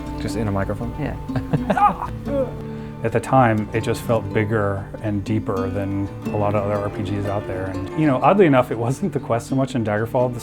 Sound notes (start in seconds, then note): 1.4 interviewer chuckling; 1.8 Todd yelping